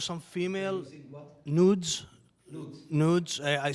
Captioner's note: mumbling